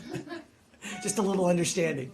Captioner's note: laughter